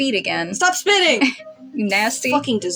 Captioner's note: chuckle